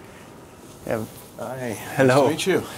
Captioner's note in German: englisch